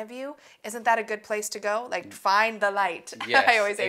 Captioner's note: laughs